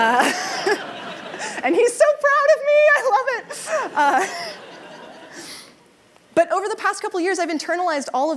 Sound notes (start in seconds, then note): 3.5 laughter